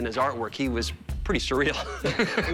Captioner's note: laughter